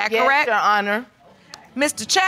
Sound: audience murmurs

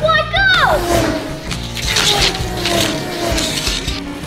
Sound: car engine revs

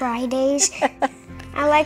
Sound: laughs

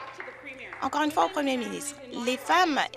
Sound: some Applause

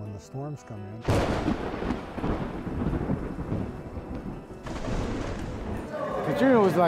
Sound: thunder

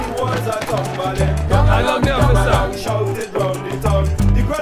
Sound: in foreign language

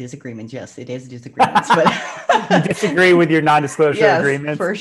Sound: laughs

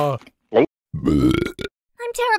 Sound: burp!

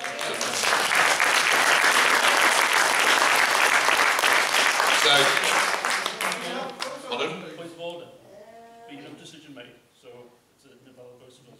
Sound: applause

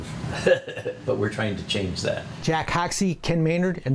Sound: laughs

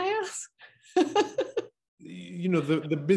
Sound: laughs

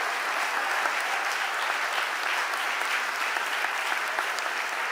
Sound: audience applauding

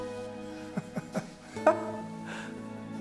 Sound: chuckles

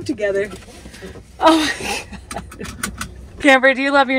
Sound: laughing

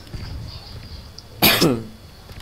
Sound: cough!

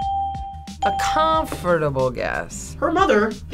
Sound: ding

